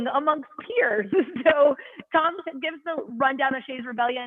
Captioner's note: laughter